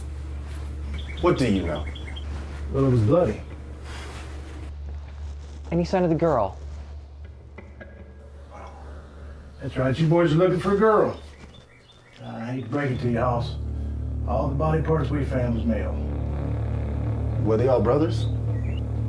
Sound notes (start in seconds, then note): 6.8 sigh